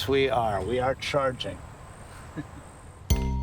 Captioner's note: chuckles